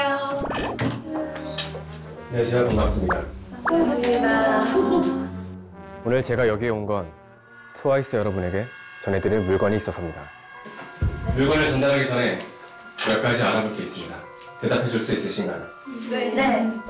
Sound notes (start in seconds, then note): 3.8 hesitant